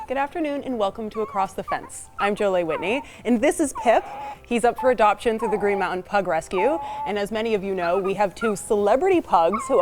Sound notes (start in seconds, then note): 2.7 pip vocalizing